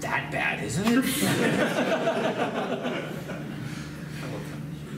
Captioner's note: laughs